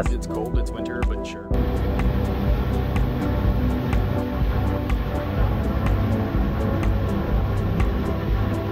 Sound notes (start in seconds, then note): 1.5 boat engine revving; 5.5 upbeat music